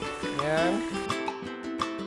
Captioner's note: sizzle